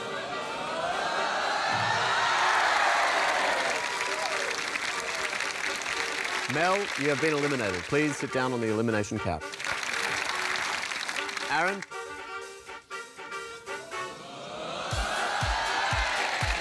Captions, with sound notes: (CHEERING, APPLAUSE) Mel, you have been eliminated. Please sit down on the elimination couch. (APPLAUSE) Aaron. (CHEERING, APPLAUSE)